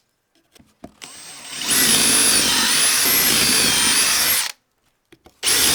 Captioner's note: drilling